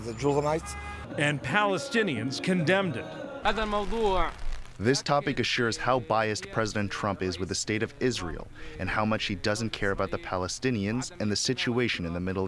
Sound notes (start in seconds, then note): 3.7 through translator